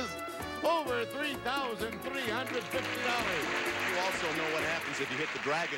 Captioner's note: audience applauding